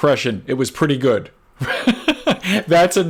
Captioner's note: laughs